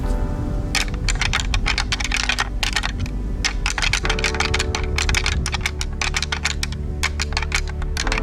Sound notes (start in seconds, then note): 0.0 antlers rattling